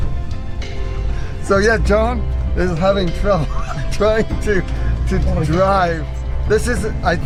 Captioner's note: laughs